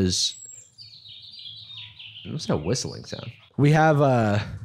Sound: sudden birdsong in the background

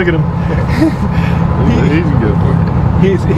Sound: laughs

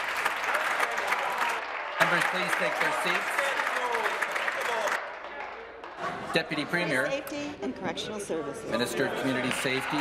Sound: applause

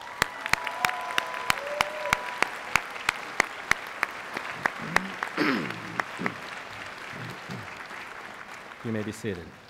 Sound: applause

